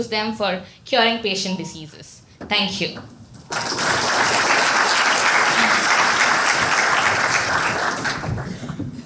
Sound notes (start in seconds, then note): 3.4 applause